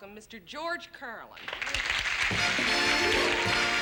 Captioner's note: applause